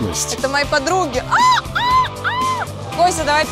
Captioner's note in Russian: крик чайки